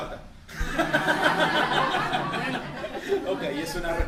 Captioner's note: laughter